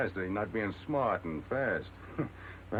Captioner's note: laughs